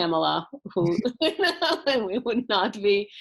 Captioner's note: laughing